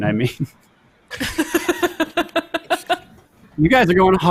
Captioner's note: all laughs